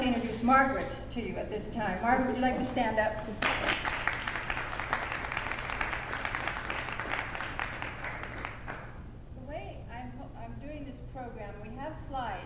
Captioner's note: applause